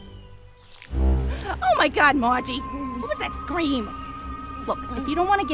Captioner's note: gasps